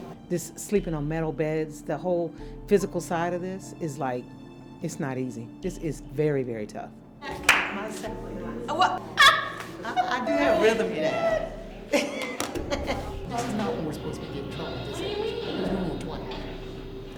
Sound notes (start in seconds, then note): 9.2 chuckling